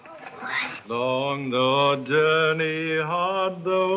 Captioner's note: excited children